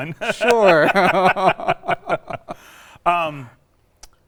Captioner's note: both laugh